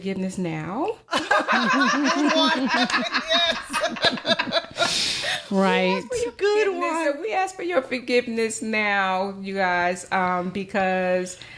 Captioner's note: laughter